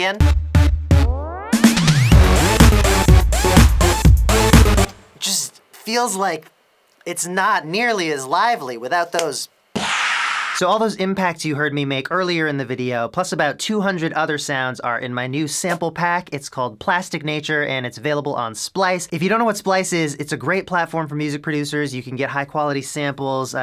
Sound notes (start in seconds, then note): 9.1 slap; 9.7 pssshh